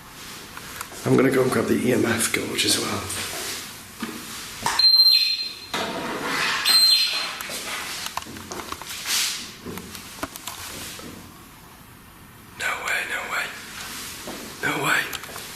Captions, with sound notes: - I'm gonna go grab the EMF Gauss as well. (metre beeping) (footsteps thudding) No way, no way, no way.